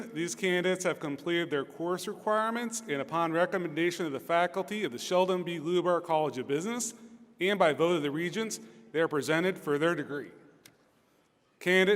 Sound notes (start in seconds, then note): none